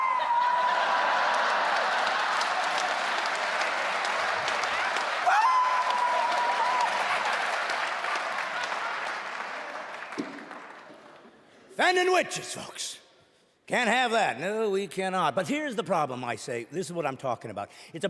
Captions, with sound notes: [cheering and clapping] [high pitchy screaming] Offending witches folks. Can't have that. No, we cannot. Here's the problem, I say, this is what I'm talking about